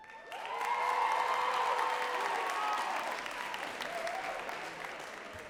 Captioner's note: crowd cheering and clapping